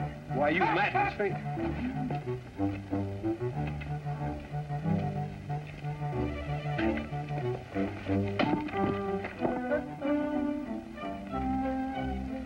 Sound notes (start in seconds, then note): 1.5 laughter